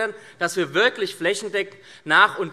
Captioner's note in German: none